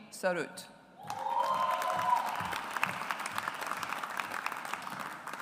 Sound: audience applauds

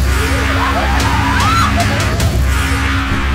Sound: evil laughing

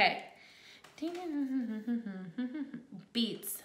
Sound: humming quickly

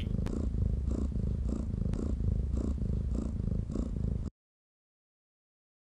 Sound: jess snoring sound

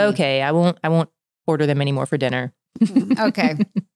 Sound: laughs

